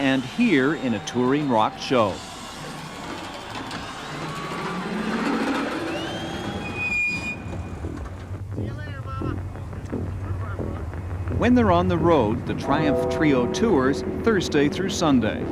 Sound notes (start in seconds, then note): 7.3 brakes squeak